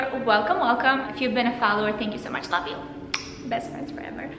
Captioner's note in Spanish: beso